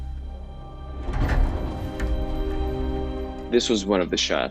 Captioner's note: rattling